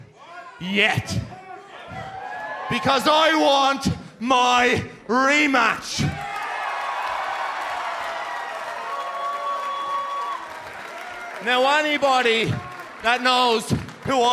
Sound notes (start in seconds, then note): 6.1 cheers and applause